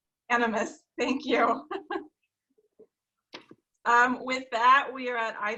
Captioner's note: laughing